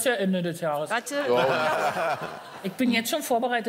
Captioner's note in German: Lachen